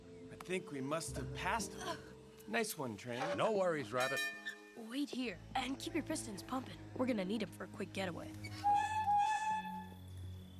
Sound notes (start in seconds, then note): 3.2 bell dings; 8.6 train whistle blows